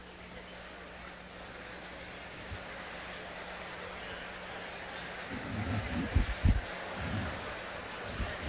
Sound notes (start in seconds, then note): 0.0 students talking